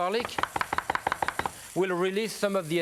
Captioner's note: knife tapping